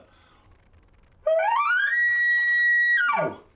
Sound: elk call

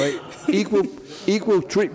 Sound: laughs

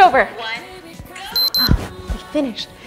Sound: beeps

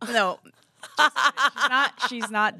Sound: laughs

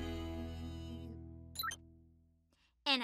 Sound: chirps

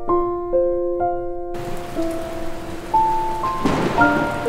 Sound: thunder and Rain

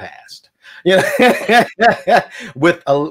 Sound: laughs

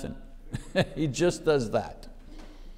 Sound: chuckles

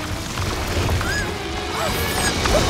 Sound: squealing

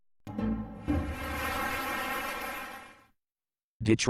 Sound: applause

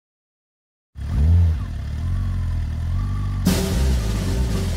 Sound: motorcycle idling; drum roll

